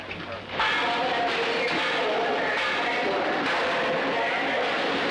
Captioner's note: clamoring